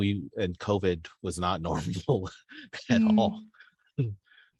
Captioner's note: laughs